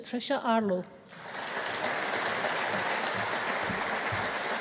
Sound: audience applauding

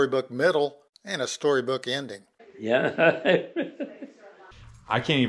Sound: old man laughing

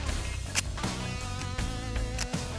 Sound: gun clicks

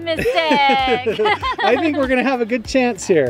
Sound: laughing

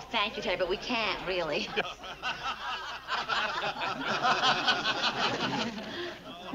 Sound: people laughing

